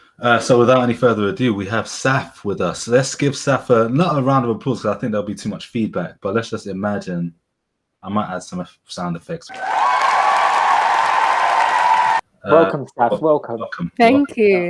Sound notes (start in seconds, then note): 9.4 applause